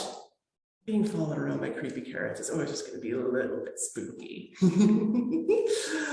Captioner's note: laughter